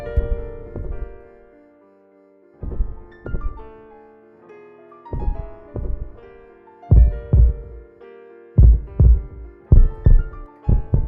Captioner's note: heartbeat increasing in volume and pace